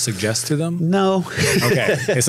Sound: laughs

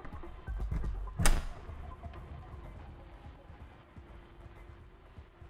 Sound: door clicking

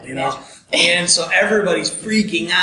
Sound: laughing

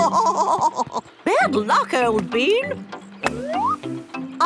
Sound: laughing

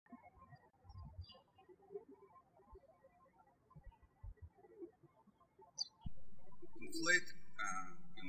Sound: birds chirping

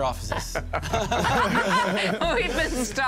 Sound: laughter

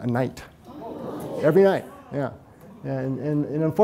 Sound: audience gasping

